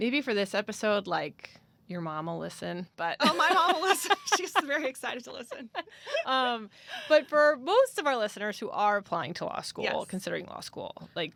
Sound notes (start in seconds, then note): 3.3 laughs